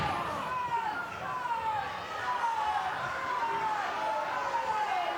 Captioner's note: audience clamoring